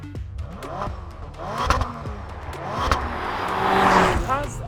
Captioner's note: engine revs